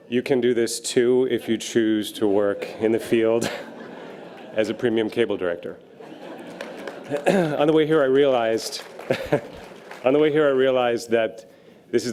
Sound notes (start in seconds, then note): 5.7 audience laughter; 8.9 laughs